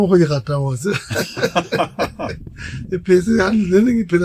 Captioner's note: laughing